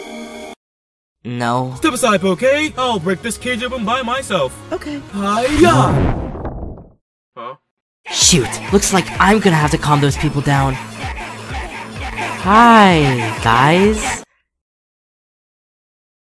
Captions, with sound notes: No...? No...? Step aside Bouquet! I'LL break this cage open by myself! -Okay. Step aside Bouquet! I'LL break this cage open by myself! -Okay. HIYAH!!! HIYAH!!! ...huh. ...huh. Shoot! Looks like I’M gonna have to calm those people down... Shoot! Looks like I’M gonna have to calm those people down... (crowd yelling) Hi... Guys...! (crowd yelling) Hi... Guys...! ..... .....